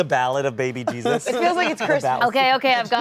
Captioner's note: laughter